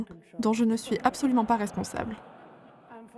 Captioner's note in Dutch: publiek lacht